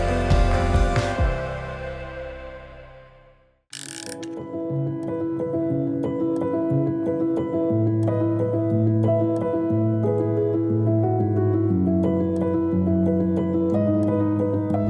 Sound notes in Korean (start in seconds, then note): 3.7 다이얼 소리